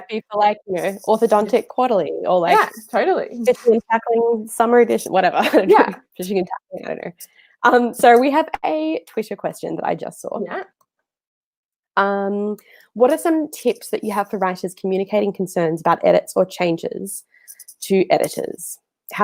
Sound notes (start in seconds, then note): 4.2 murmurs